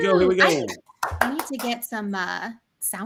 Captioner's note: clapping